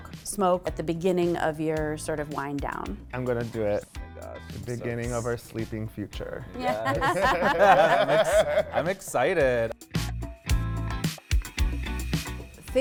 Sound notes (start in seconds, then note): 6.7 everyone laughing; 10.0 upbeat music